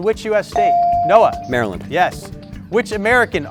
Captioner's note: bell sounding